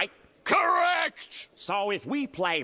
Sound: shouting

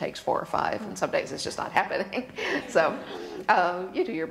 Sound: laughs

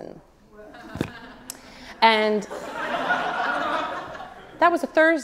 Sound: audience laughs

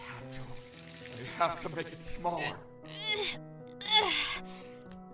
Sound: struggling

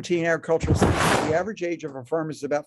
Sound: rasping interference drowns out speaker

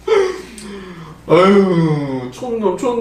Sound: sigh

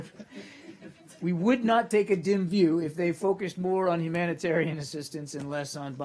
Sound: laughter

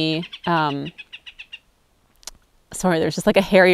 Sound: bird noises

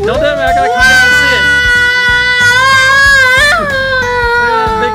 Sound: child screaming

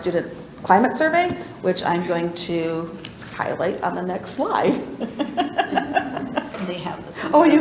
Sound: laughs

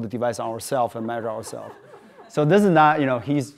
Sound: audience laughing

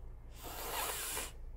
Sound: breathing in

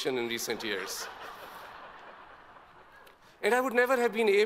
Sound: all laugh

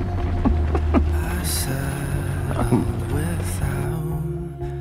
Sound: laughs

